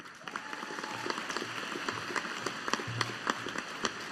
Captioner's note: audience applauding